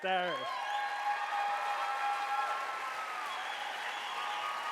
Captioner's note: audience cheering